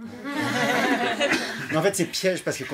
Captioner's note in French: rires